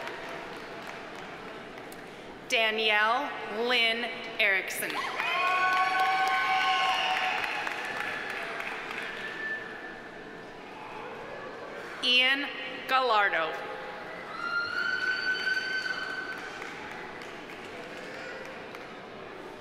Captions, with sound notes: Danielle Lynn Eriksson. (audience applauding) (audience cheering) Ian Gallardo. (audience member shouting)